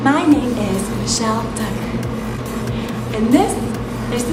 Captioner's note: softly and calmly